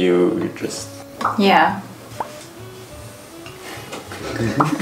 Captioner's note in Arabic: فرقعة; يضحك